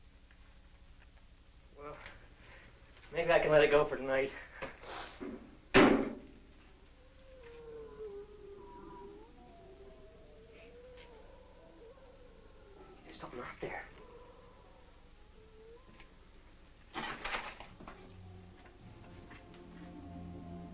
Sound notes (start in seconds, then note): 6.5 creature growling